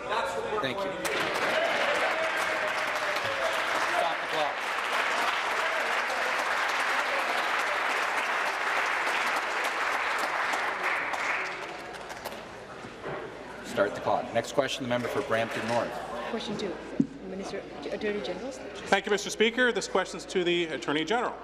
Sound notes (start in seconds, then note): 5.0 applause